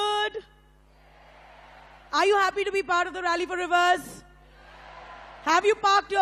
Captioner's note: speaks in Hindi - not transcribed